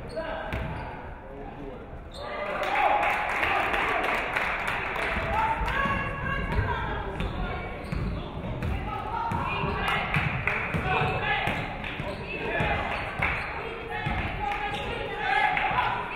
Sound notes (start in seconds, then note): 2.4 audience clapping; 9.7 audience cheering